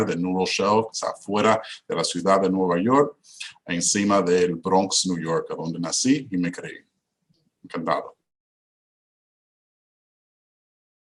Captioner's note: repeats in Spanish